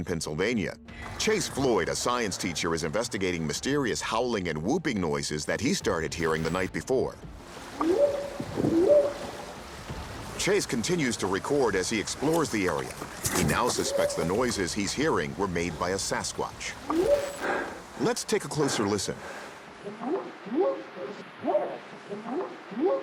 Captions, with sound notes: Chase Floyd, a science teacher, is investigating mysterious howling and whooping noises that he started hearing the night before. [whooping sound] Chase continues to record as he explores the area. He now suspects the noises he's hearing were made by a Sasquatch. [whooping sound] Let's take a closer listen. [whooping sound]